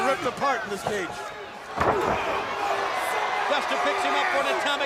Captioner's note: crowd cheering